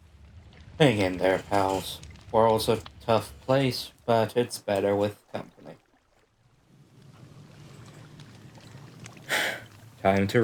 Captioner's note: sigh